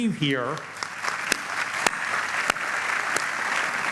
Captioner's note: applause